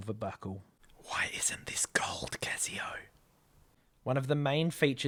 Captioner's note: whispers